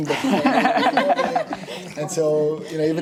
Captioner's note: laughing